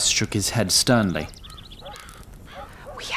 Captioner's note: whispers